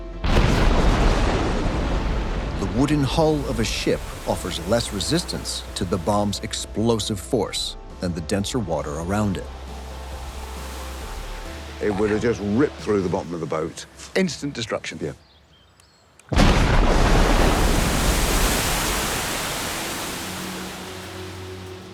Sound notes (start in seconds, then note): 0.2 bomb booms; 0.3 water splashing; 16.3 bomb booms; 16.3 water splashing